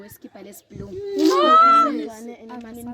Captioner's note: exclaims